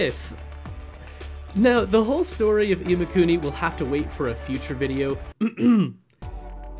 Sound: cough cough

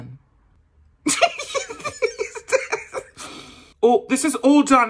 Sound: giggles

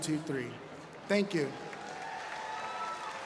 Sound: applause

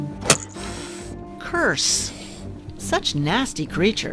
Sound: cat hisses

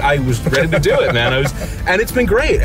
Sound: laughing

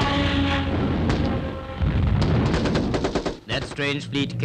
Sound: explosion

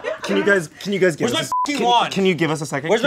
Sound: beep

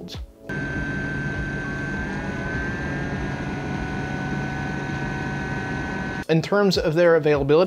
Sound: loud blower fan noises

